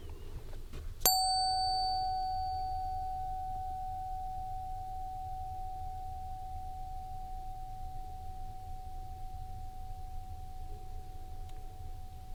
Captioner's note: bell Ring